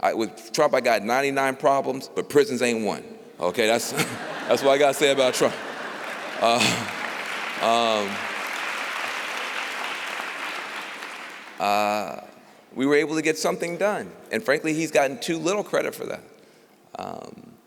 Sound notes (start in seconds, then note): 7.0 applause